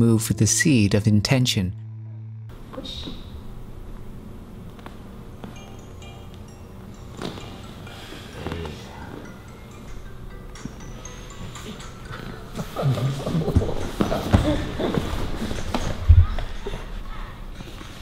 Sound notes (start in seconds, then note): 9.7 laughter